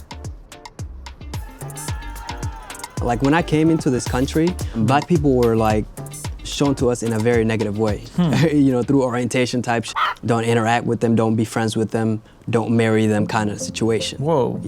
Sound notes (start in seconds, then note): 1.3 upbeat electronic music; 9.9 cluck